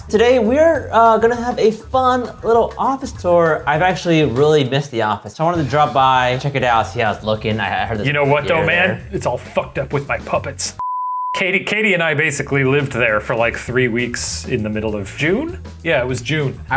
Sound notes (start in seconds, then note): 10.8 beeping